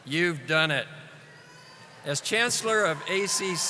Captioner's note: audience applauding